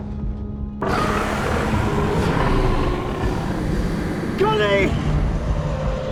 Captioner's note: dragon growls; feathers flaps